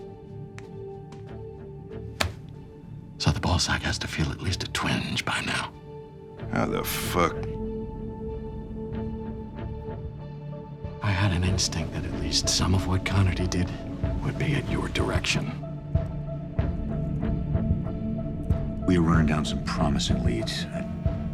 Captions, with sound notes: (suspenseful music) (phone thudding) - So, the ball sack has to feel at least a twinge by now. - How the fuck... (suspenseful music) - I had an instinct that at least some of what Connerty did would be at your direction. (suspenseful music) - We were running down some promising leads.